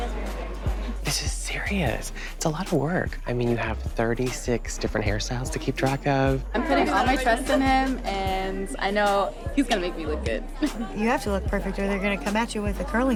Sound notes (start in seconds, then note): 10.1 laughing